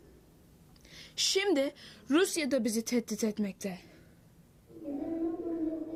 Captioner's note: speaks in foreign language